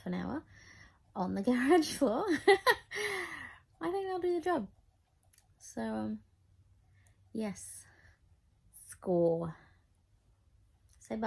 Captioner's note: laughs